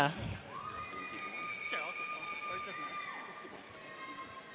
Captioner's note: audience cheers